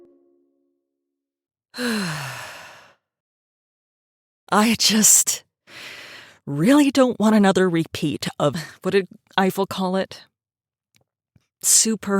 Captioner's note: sighs